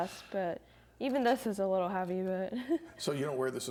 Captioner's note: laughs